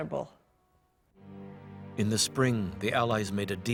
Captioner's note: voiceover